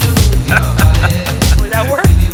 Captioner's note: laughing